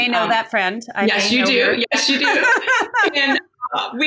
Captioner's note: laughing